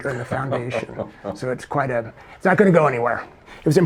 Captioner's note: chuckling